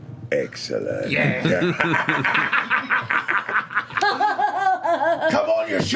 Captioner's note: laughter